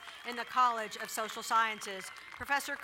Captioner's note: cheering and applauding